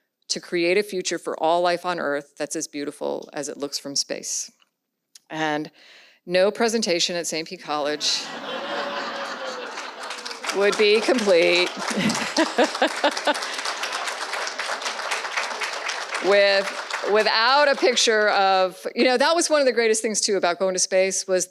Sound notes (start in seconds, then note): 8.0 audience laughs; 12.1 laughs; 12.9 audience applauds